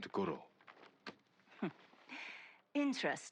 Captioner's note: laugh